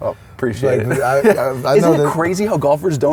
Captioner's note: laughs